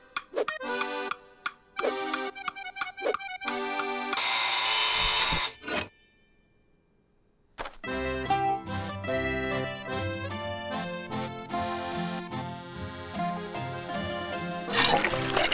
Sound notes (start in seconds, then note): 4.2 buzzer sounds